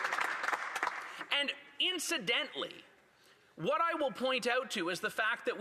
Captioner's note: applause